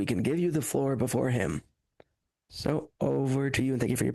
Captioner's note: speaking French